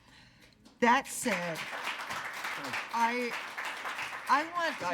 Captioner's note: attendees applauding